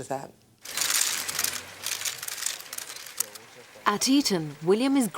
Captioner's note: cameras clicking